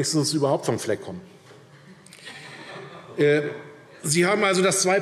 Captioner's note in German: Heiterkeit DIE LINKE